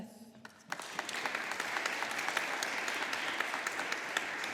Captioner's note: audience applauding